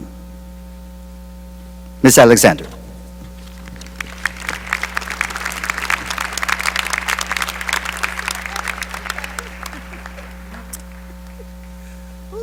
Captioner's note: applause